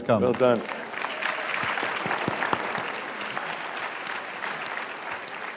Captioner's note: applause